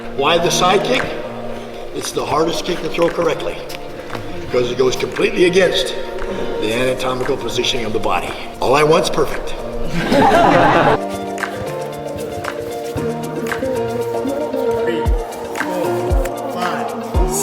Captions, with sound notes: Why the sidekick? It's the hardest kick to throw correctly. Cause it goes completely against the anatomical positioning of the body. All I want's perfect. (crowd laughs) Three, four, five, six.